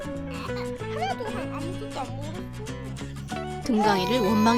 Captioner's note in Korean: 당황해 더듬음